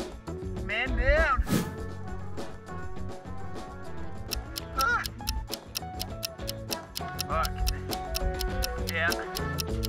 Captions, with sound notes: Man down. (ticking clock) Fuck. Yeah.